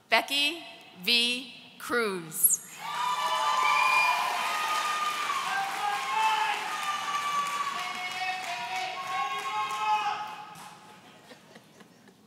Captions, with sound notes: Becky V. Cruz. (audience cheering)